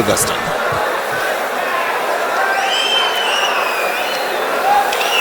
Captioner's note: wild applause and cheering for 22 seconds